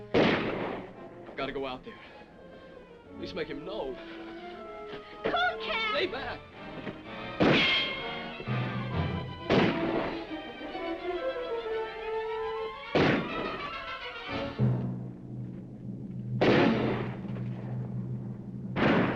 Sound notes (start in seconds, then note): 0.0 guns firing; 4.4 dramatic music; 6.9 dramatic music; 7.7 guns firing; 9.6 dramatic music; 13.1 guns firing